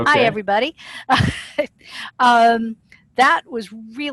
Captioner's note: laughter